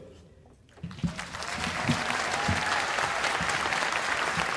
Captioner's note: cheers and applause